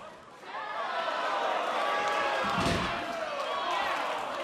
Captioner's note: crowd cheering